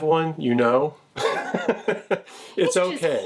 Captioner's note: laughs